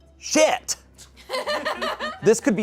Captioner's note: audience laughing